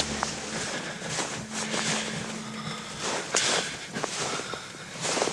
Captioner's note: breathes heavily